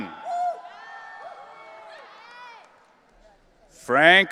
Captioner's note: audience cheering